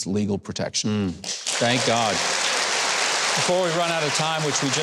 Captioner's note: audience applauding